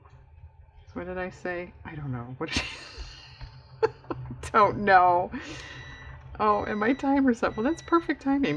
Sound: laughs; electronic beeping

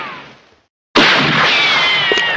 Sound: gun shots echoing

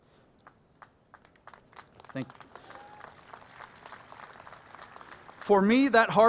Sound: applause

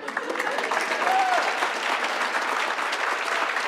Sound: audience claps

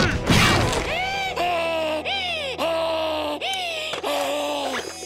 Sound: heavy panting

